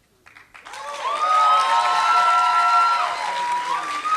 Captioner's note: applause